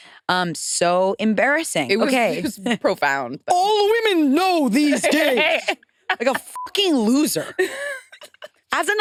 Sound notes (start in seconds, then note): 6.4 beep